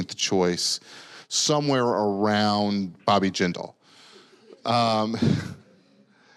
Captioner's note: laughs